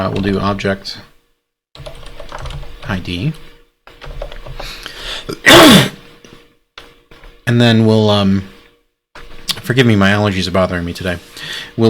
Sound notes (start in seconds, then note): 5.2 coughs